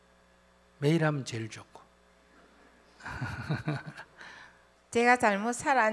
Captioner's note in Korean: 웃음